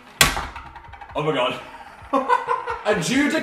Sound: laughs

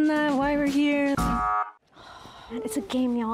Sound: buzzing sound

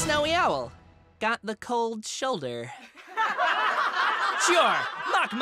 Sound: laughter

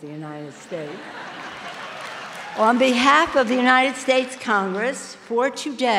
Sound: ~laughter~

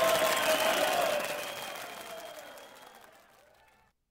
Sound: applause

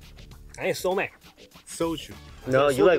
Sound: speaking in Korean

